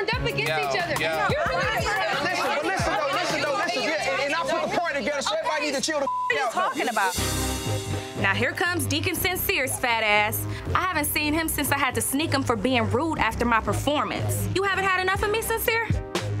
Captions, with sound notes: against each other. - Listen though, (girls bickering) listen though, listen though. - And I put the party together so everybody need to chill the (beep) out though. - What are you talking about? - Now here comes deacon Sincere's fat ass. I haven't seen him since I had to sneak him for being rude after my performance. You haven't had enough of me Sincere?